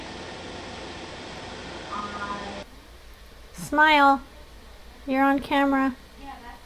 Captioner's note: audio from phone